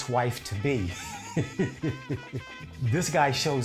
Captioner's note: laughing